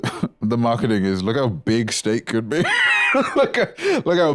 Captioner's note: laughs